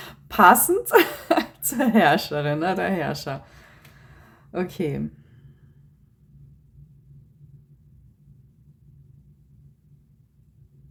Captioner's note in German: gelächter